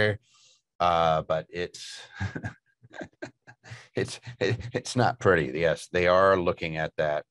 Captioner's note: laughs